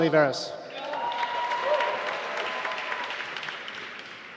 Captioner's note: applause